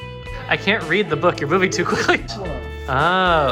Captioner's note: laughs